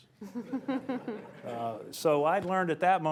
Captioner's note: laughter